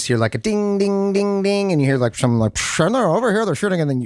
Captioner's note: mimics radio